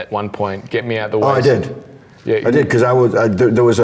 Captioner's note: murmurs